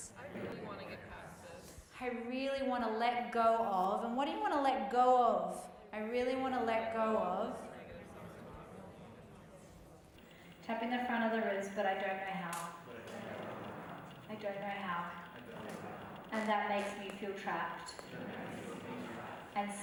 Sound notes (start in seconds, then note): 7.9 group murmuring